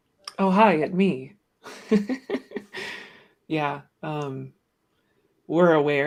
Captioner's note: laughs